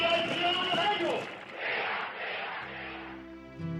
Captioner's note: man shouting in Spanish over loudspeaker